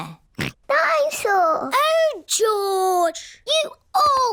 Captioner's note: snorts